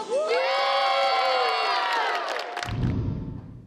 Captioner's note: crowd